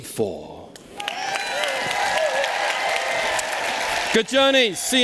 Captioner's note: applause